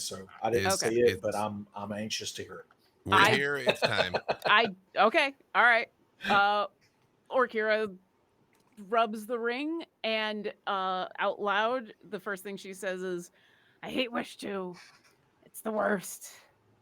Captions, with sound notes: so I didn't see it, but I'm anxious to hear. (murmurs) - Okay, all right. Orkira rubs the ring and out loud. The first thing she says is, "He wished to, it's the worst,